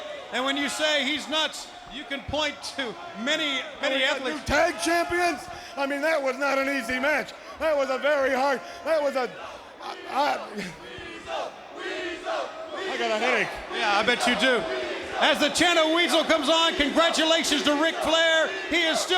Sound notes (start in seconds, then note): 11.0 applause